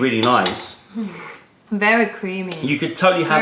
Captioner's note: sips tea